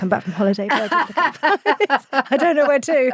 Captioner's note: both laughing